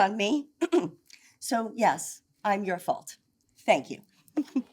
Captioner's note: clears throat